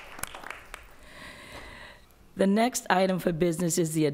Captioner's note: applause